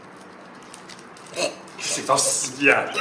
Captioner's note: MONK choking